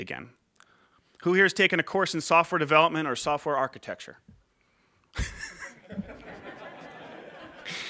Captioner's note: laughter